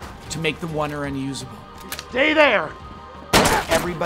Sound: gun shooting

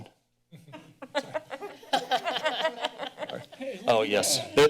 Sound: laughter

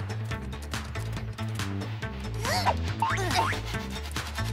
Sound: upbeat music; grunting

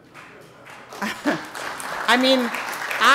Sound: audience applauding

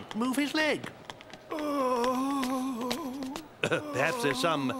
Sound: moaning and groaning

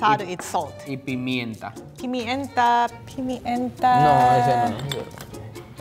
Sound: speaking in foreign language

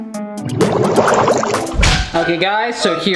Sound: water rumbling; fart noise

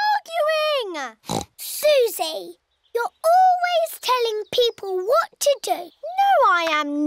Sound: oinks

